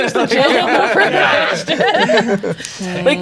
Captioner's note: all laughing